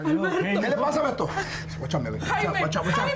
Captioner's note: speaking in Spanish